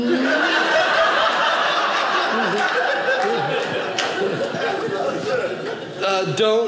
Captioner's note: audience laughing